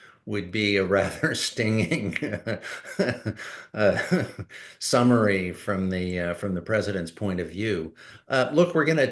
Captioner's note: laughs